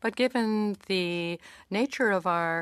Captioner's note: speaking in French